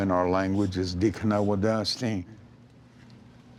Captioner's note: speaking Cherokee